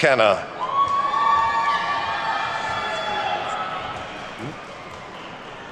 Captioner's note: attendees whooping and clapping